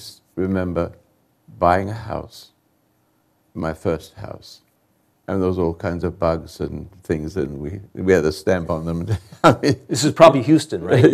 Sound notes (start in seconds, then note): 9.0 chuckles